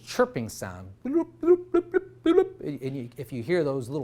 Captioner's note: making chirping sound